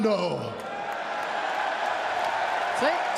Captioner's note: cheers and applause